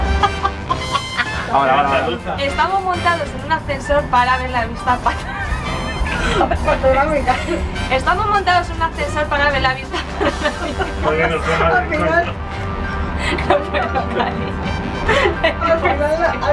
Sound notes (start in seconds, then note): 11.5 laughs